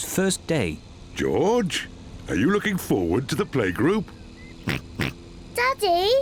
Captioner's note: snorts